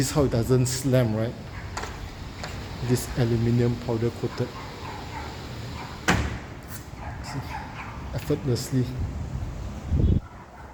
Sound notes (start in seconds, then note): 4.1 sliding door; 5.8 the door sliding